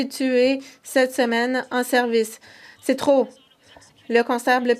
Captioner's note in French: voix de l'interprète